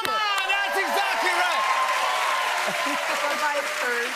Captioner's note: cheers and applause